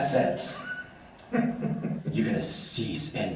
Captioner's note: laughs